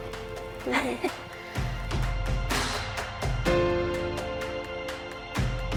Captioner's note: giggles nervously